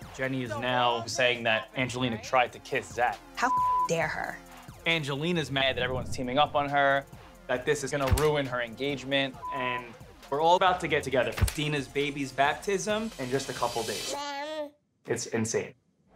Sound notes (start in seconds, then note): 3.4 beep; 14.1 baby babbling